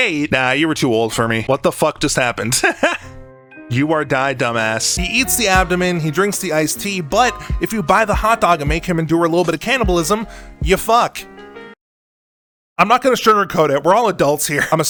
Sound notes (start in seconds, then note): 2.5 laughs